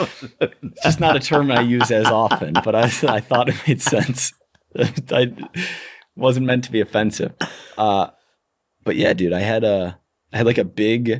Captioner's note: chuckle; chuckle